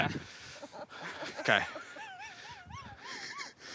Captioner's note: laughing